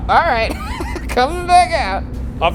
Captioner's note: laughs